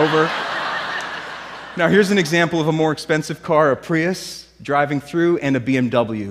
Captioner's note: laughter